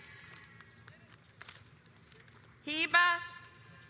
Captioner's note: audience applauds